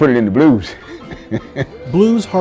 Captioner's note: laughs